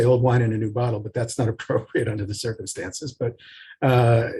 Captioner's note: laughing